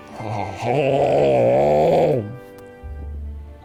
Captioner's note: groans